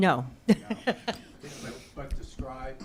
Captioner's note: chuckles